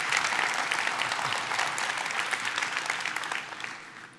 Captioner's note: applause